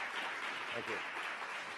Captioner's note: applause